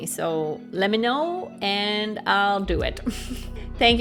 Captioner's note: chuckles